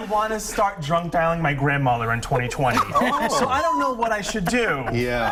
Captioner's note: laughter